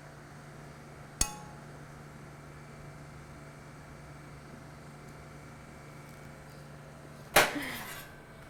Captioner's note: sound of thongs hitting pot